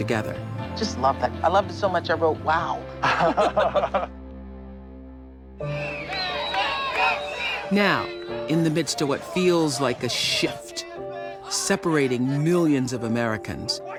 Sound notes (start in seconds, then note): 3.0 both chuckle; 5.9 crowd chanting indistinctly